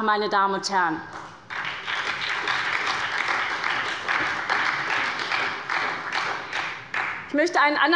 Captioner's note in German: Beifall bei der SPD